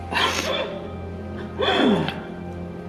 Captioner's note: Kieran coughs